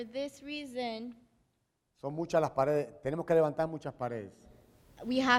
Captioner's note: speaking in Spanish